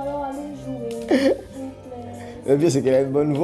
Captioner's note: rires